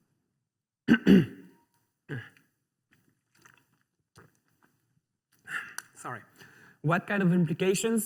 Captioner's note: clears throat